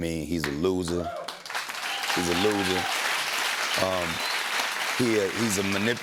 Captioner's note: cheers and applause